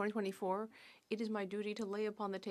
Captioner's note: speaking French